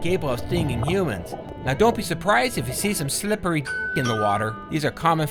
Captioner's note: door bell ring